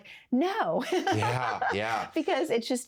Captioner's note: laughs